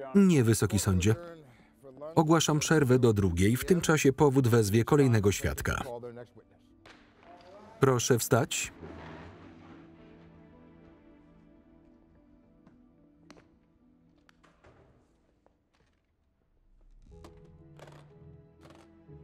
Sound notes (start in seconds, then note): 8.7 gavel bangs; 17.2 case clicking shut